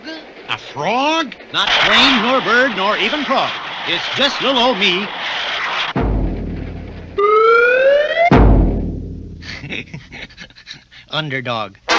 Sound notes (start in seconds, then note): 5.7 crash!; 9.4 laughs!